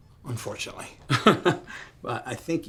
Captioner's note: chuckles